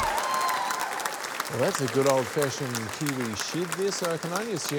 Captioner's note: cheering, applause